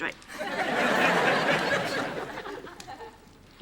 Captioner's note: laughter